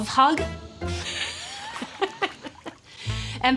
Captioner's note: laughs